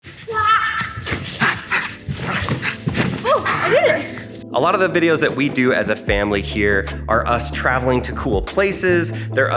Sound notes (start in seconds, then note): 0.9 dog panting